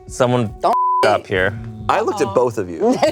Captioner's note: beep